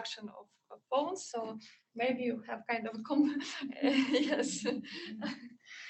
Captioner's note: laughing